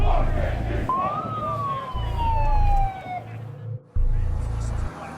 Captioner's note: crowd chanting; police siren